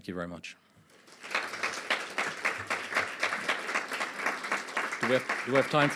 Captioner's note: applause